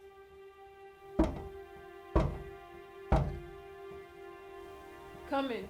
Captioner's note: gentle music; Lavinia knocks on door